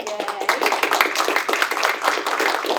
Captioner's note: applause